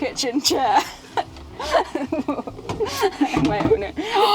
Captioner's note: giggling